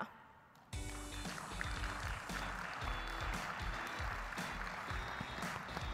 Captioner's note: audience applauding